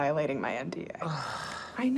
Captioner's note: sighs